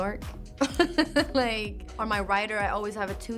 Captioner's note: laughs